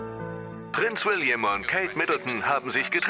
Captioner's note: voiceover